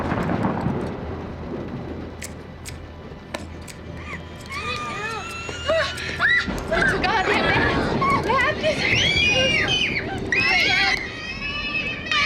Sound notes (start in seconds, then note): 0.2 scissors clipping; 4.4 screaming; 8.7 screaming